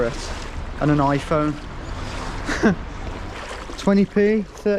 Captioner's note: chuckles